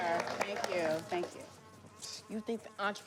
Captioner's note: flies buzzing